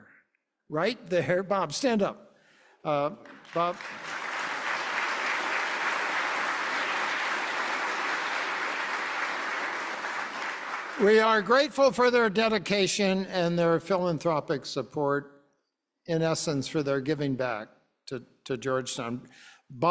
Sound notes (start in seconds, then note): 3.3 audience clapping